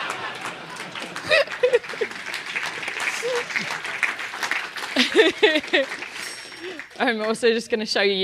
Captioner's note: laugh; applause